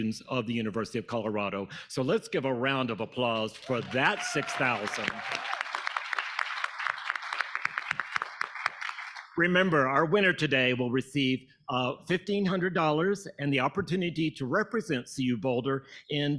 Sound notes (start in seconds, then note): 5.4 audience applauding